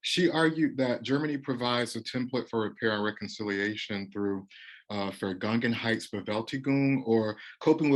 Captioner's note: German phrase